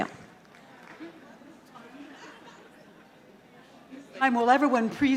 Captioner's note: audience chattering